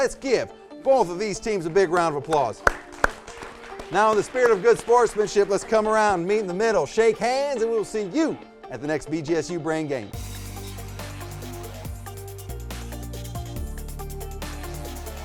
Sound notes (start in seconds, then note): 1.9 applause; 10.6 upbeat music